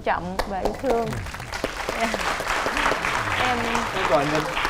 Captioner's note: applause